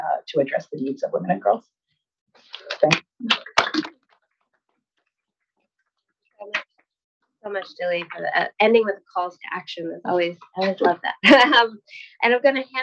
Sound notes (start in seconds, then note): 2.2 attendees applause; 10.6 chuckles